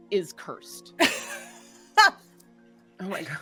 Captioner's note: laughing